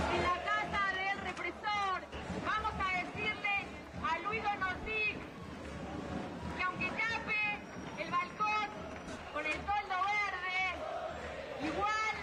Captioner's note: foreign language